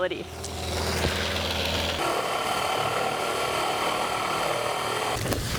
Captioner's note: drilling